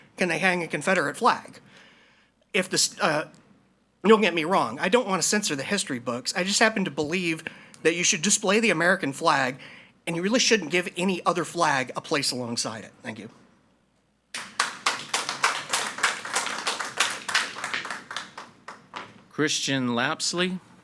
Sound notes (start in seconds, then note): 14.3 audience applauding